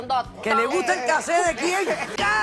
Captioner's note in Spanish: habla en portugués